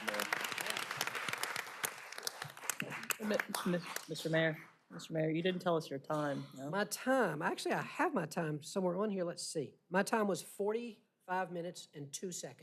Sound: applause

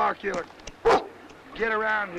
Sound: dog barks

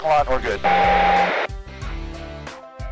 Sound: radio beep

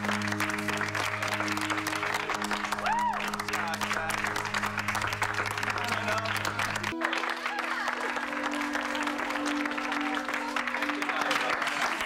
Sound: applause

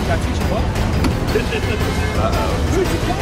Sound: laughs

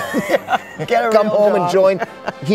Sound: both laugh

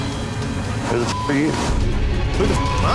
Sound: beeping

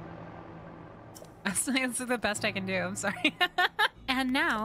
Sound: laughter

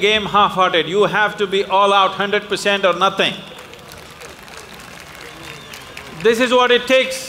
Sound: applause

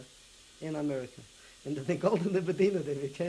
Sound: non-english

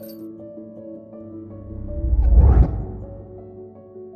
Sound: swooooosh!

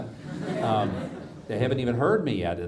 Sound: audience laughs

